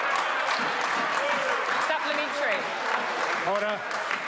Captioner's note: members applaud